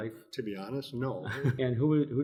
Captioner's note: chuckles